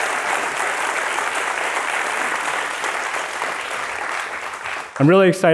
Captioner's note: applause